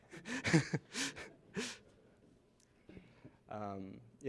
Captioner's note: laughter